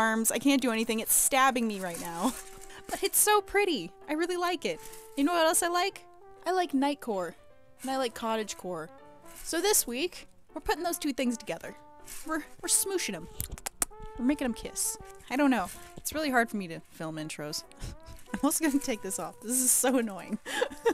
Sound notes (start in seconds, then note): 13.2 kissy sounds